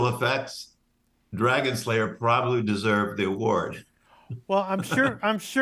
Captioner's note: laughs